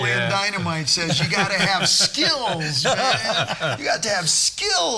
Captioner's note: all laughing